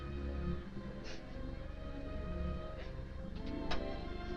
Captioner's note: Nora sniffling